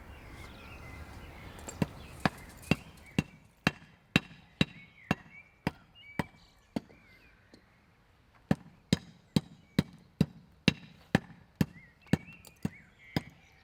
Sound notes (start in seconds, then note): 2.2 hammering